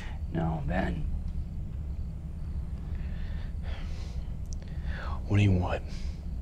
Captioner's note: crickets chirping; tense music; crickets chirping; tense music